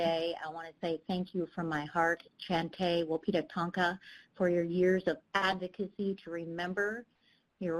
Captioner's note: speaking Native language